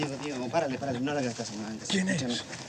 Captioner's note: speaking spanish; spanish